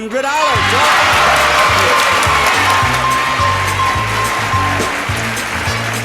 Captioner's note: audience applauding; upbeat music